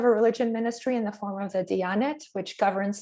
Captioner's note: in foreign language